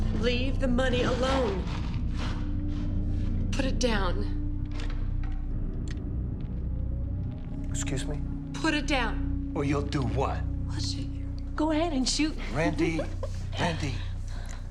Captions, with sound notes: Leave the money alone. Put it down. - Excuse me? - Put it down. - Or you'll do what? - I'll shoot you. - Go ahead and shoot. (giggles) - Randi, Randi.